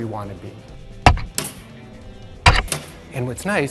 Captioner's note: thumping